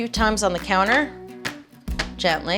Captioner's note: metal banging